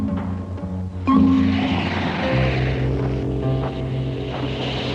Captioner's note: crocodile hissing